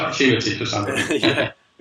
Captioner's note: both laugh